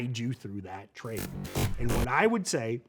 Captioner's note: electric buzzing